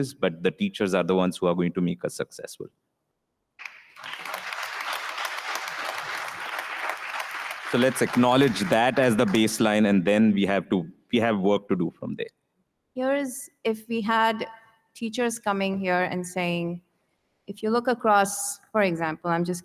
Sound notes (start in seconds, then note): 3.6 audience applauding